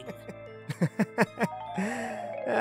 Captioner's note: laughter